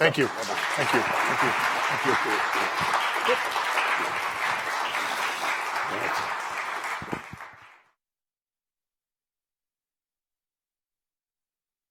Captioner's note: applause